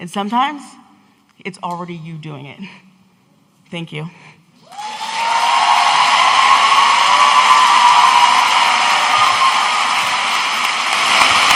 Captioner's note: audience cheering